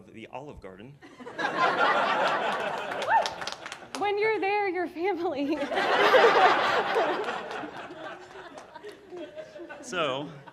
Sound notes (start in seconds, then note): 1.8 audience applauding; 5.4 laughs; 5.9 audience applauding